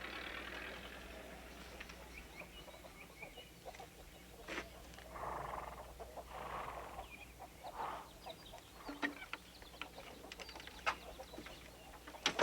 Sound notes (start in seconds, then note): 6.5 chickens clucking; 6.5 horse nickers